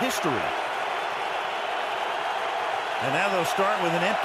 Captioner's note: crowd cheering